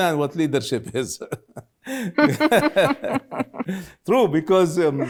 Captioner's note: both laughing